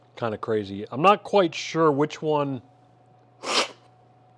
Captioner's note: sips